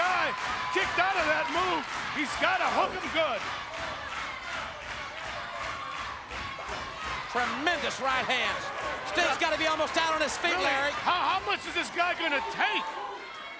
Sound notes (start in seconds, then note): 4.0 crowd chants loudly